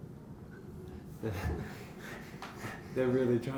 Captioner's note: laughs